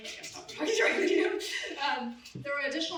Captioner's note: laughs